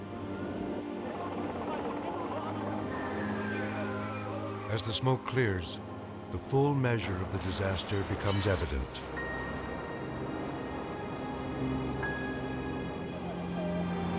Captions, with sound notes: (rescuers shouting in foreign language) As the smoke clears, the full measure of the disaster becomes evident. (melancholy music)